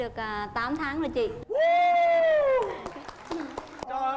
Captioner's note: applause